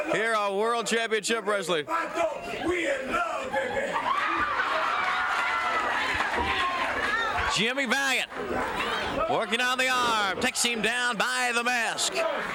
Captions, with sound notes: Here at World Championship Wrestling. We in love, baby! (crowd cheers) Jimmy Valiant. Working on the arm, takes him down by the mask.